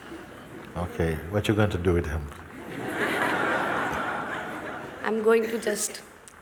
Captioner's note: laughter